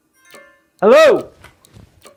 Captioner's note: phone beeping